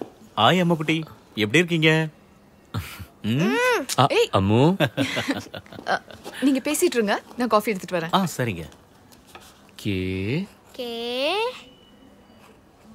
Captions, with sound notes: Hi Ammu... How are you? Ammu... - (Laughs) You guys keep talking, I will get some coffee. OK. K... - K...